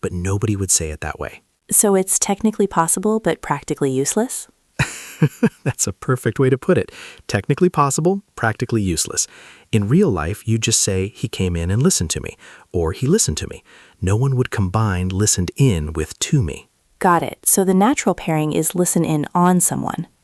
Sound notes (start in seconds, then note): 4.8 laughs